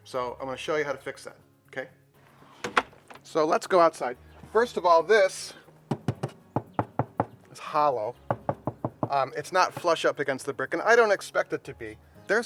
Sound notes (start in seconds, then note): 5.9 knocking